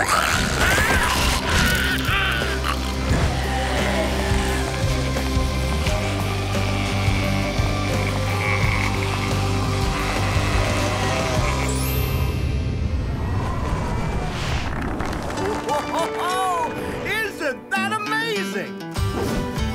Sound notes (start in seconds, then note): 0.2 growling, screaming; 3.5 growling; 14.7 applause